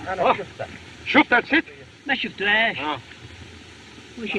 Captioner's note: speaking Foreign Language